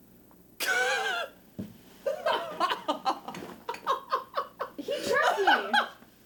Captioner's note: laughter